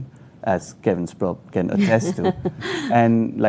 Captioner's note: laughing